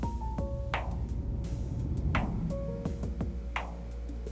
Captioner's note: drone sound